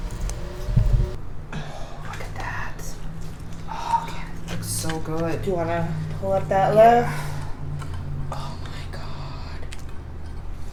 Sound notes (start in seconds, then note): 2.8 hushed